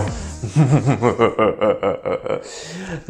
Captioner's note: evil laugh